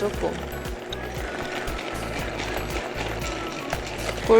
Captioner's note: vigorously stirring